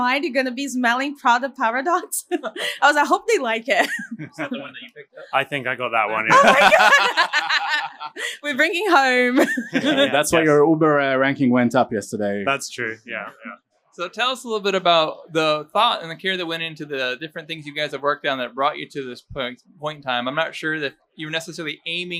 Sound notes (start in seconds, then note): 6.9 laughing